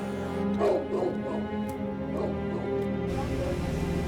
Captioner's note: dog barking